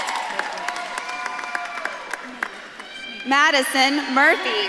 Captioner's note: audience claps and cheers